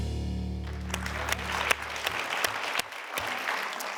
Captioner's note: audience applauds